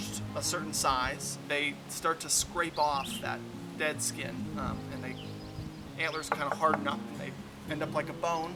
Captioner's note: knocking sound